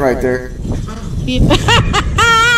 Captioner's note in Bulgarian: смее се